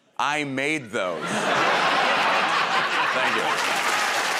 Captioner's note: laughter